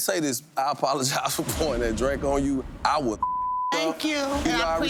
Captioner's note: beep